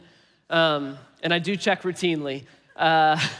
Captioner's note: laughing